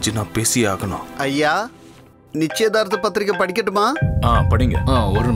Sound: phone rings

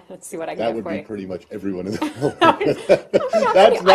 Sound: laughter

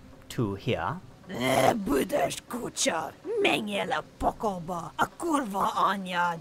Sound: speaking foreign language

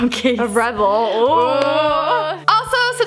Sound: girls make spooky noise

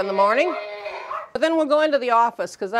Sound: cow muttering

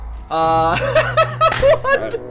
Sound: laughing uncontrollably

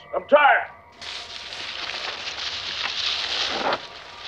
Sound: hay rustling

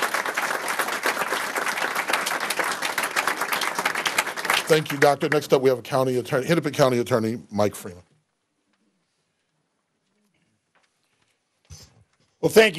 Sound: applause

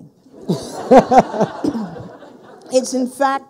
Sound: people laughing

